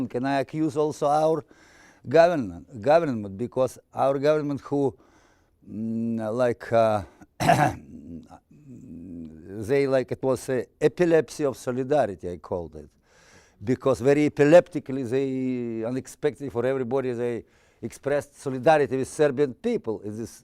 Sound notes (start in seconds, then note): 7.3 clearing throat